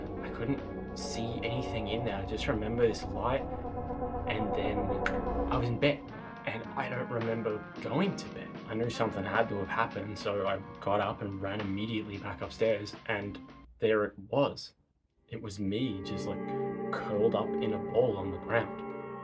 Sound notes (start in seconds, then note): 5.0 finger snap